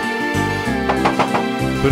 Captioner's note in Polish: pukanie do drzwi